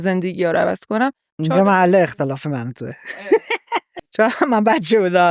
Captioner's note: laughs